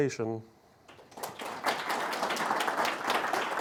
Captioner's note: audience applauds